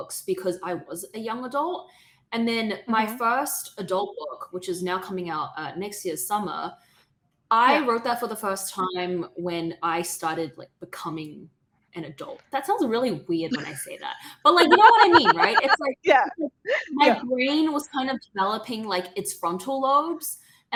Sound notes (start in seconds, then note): 14.6 laughter